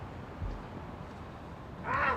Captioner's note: nasal voice